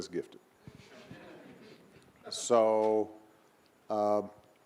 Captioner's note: audience laughing